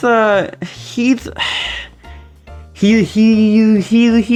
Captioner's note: sighs like an angsty teenager